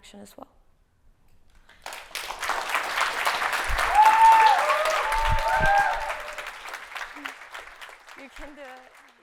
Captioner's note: clapping